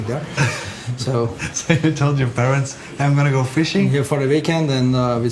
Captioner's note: laughing